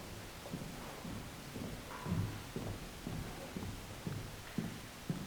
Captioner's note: heels thumping